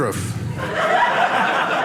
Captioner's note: audience laughing